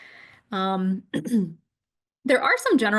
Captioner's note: clears throat